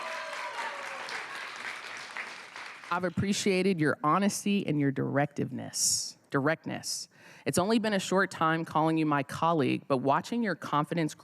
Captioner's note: cheers and applause